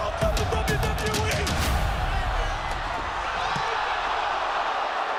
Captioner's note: cheering